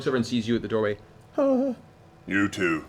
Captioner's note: whimpers